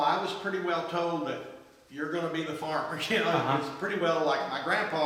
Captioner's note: laughs